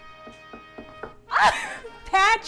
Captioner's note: knocking on door